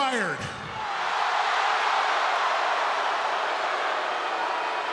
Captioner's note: audience gasping